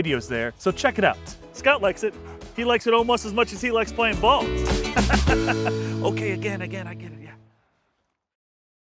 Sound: laughter

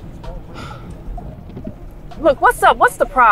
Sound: sighs

